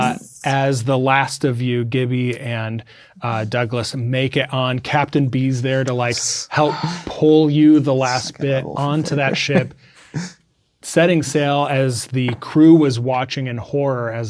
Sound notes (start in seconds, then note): 9.5 speaking quietly